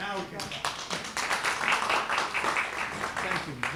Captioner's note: applause